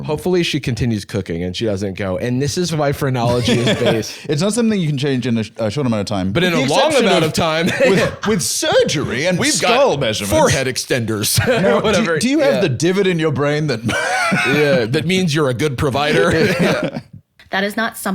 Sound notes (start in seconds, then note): 13.7 laughs